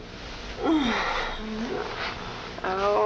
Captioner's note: groans